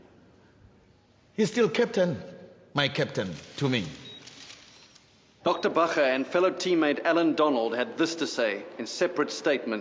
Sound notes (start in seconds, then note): 4.3 clicking